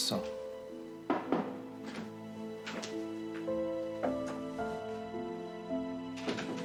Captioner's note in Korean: 노크 소리